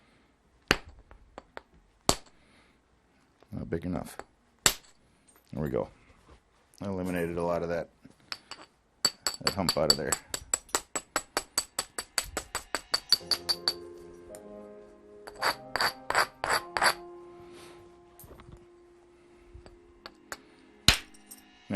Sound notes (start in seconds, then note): 0.3 knapping; 12.1 knapping